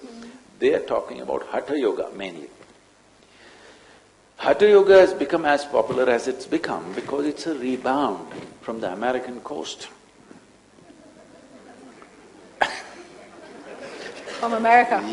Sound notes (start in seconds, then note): 10.8 laughs